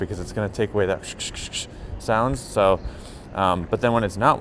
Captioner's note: imitates microphone rustling